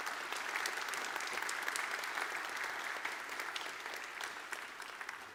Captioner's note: audience applauds